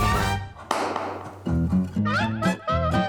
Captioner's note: narrator claps; upbeat music